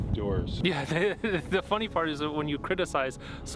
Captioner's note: gülüyor